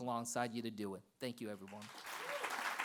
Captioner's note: applause